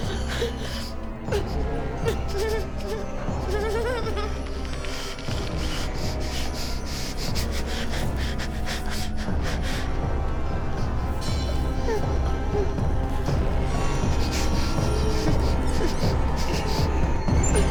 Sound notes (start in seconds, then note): 1.8 Claire whimpering; 10.1 tense music continues; 14.0 Claire whimpering